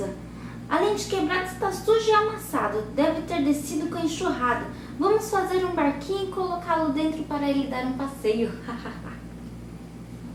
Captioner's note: ha-ha